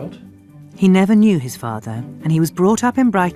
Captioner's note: voiceover